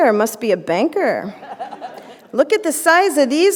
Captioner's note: laughter